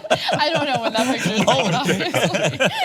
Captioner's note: laughter